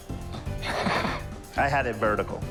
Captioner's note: laughing